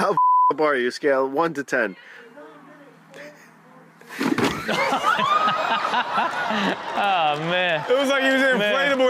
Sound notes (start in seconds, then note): 4.2 man thuds; 4.3 all laugh